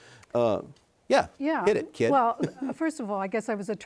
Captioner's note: chuckles